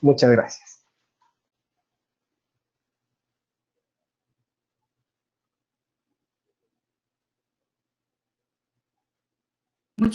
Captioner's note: silence